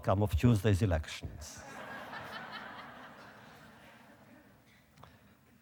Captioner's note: audience laughter